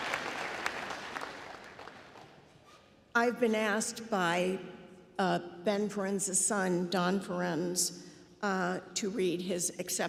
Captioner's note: applause